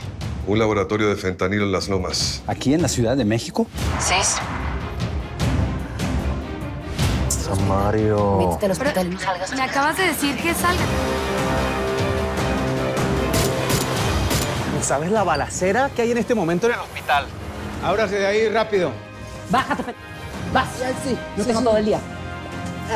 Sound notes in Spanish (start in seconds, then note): 13.1 Disparos